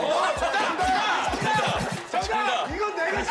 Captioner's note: everyone's excited